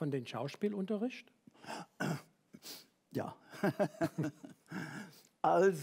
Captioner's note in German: lacht